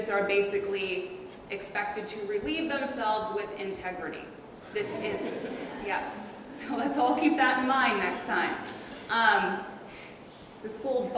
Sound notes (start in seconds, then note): 4.7 audience laughs